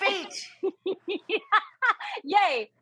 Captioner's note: laughing